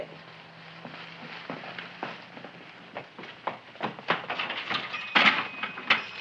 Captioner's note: door rattling; feet thumping